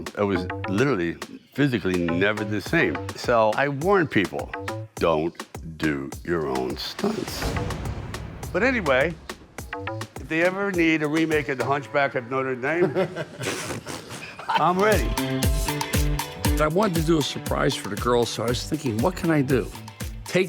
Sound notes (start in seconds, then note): 12.7 all laughing; 14.3 upbeat music